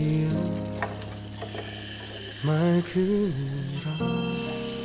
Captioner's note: marble sounds, helping the body relax